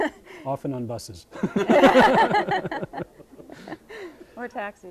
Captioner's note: all laughing